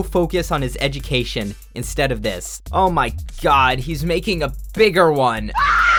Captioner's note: scream